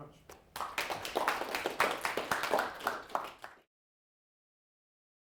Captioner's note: applause